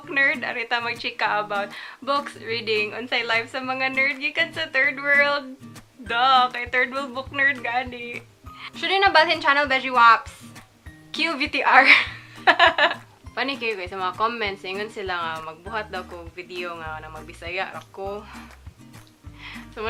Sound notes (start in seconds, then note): 12.4 awkward laugh